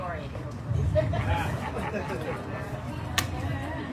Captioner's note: audience laughs